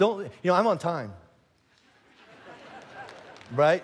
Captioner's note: congregation laughing